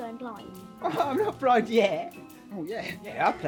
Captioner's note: laughing